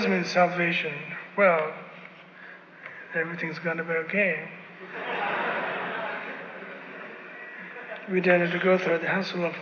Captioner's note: laughter